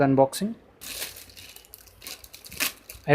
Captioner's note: noise of package opening